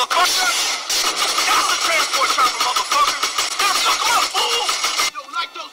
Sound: gun fire drowns out speech; voiceover

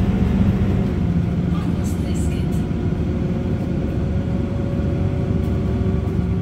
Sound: speaking Finnish

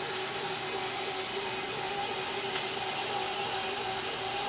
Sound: saw buzzes

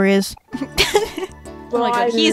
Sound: laughs

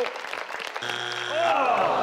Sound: buzz sound

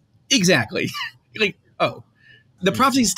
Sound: laughs

